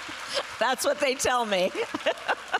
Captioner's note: laughs